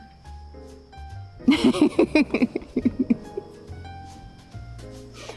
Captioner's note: laughing